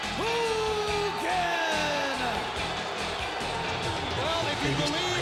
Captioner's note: crowd cheering; upbeat music